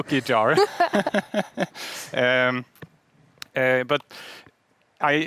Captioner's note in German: beide lachen